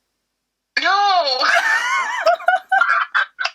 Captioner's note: laughs